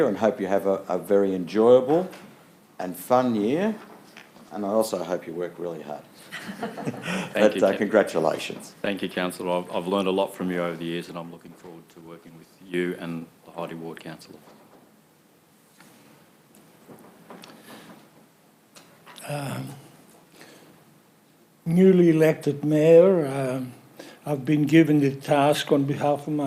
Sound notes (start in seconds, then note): 6.3 laughing